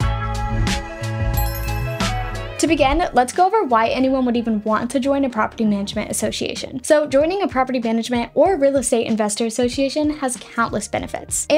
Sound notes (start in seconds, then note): 1.0 bright music; 1.3 logo chiming